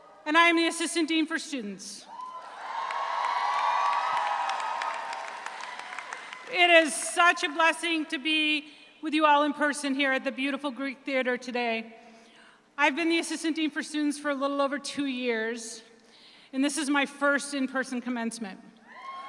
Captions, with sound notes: And I am the Assistant Dean for Students. (audience cheers) (audience applauds) It is such a blessing to be with you all in person here at the beautiful Greek Theatre today. I've been the Assistant Dean for Students for a little over two years and this is my first in person commencement.